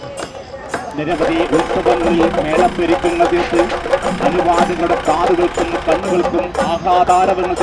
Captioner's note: announcement continues